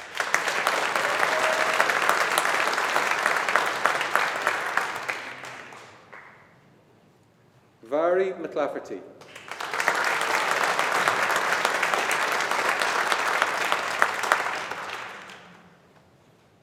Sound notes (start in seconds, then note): 0.0 audience applauding; 9.2 audience applauding